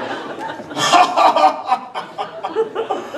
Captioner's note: Doc chortles happily